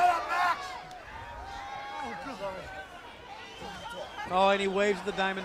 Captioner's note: crowd chatter